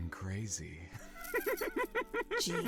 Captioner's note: laughs